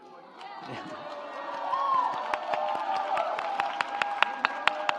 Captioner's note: audience applauds